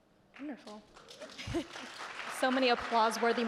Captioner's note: audience clapping